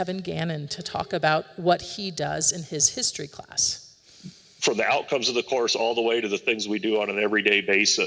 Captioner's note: recording plays